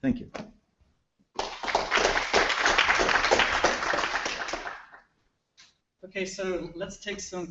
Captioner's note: applause